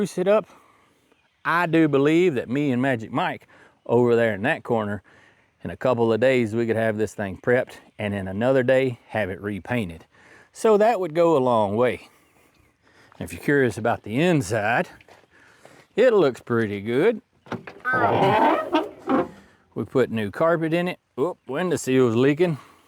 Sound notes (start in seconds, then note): 17.8 car Horn